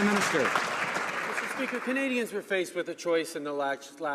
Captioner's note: some Applause